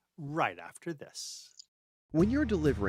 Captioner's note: voiceover